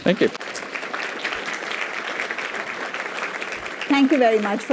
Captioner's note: applause